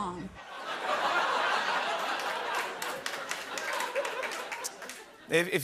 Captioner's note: laughter and applause